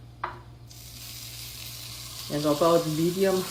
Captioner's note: cooking oil sizzling